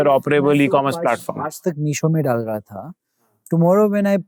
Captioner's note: speaking in Hindi